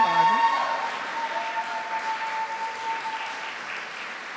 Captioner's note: applause